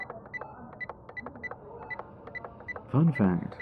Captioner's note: call Button Stops